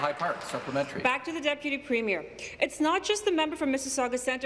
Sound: applause

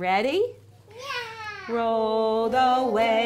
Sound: yelling

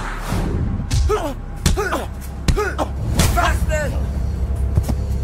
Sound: punches thudding

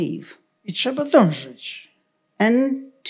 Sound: foreign language

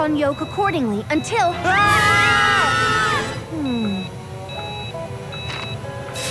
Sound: screaming

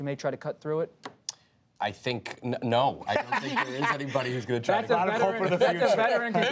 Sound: laughter

